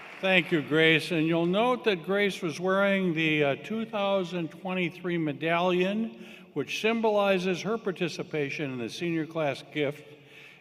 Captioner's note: applause